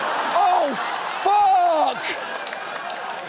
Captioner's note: audience laughs